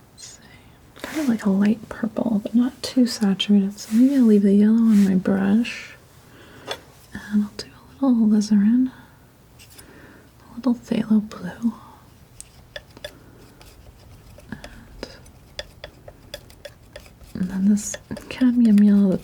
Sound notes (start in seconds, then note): 12.1 scratching